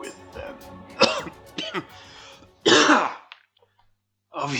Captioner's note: music swells; coughing, music stops